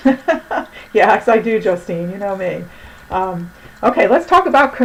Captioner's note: laughs